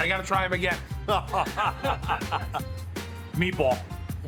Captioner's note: all laughing